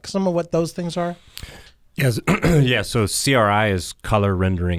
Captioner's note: clears throat